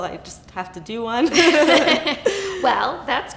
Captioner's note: laughter